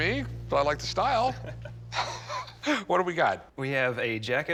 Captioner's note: both laughing